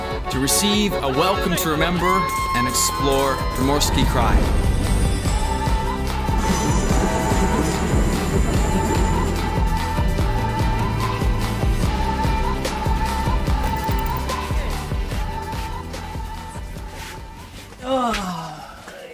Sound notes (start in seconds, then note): 0.0 folk music; 5.2 inspiring music; 6.4 train roaring